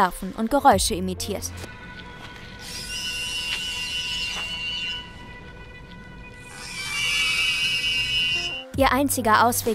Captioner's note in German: Pflanzen ahmen Handy-Klingelton nach